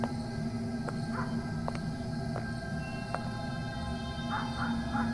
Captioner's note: footsteps; suspenseful music